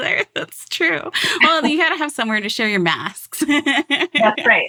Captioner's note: laughs